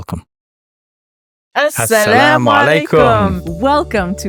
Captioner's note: speaking Arabic